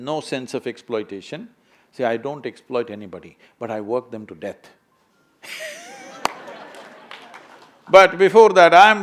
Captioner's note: laughter